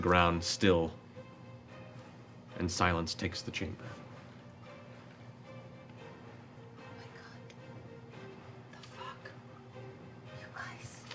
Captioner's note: silence